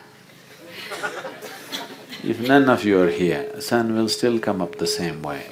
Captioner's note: laughter